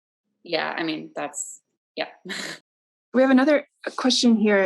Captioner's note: laughs